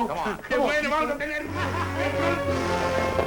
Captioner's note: laughs